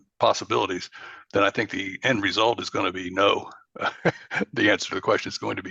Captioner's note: laughs